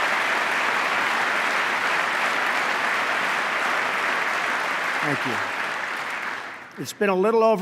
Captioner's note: applause